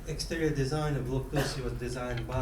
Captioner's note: coughing